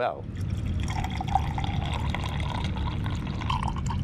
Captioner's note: coffee pouring